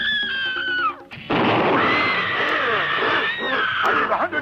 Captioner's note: gunshots